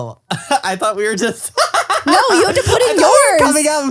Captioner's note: laughs